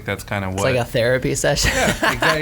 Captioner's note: laughs